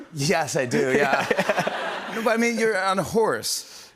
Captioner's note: laughter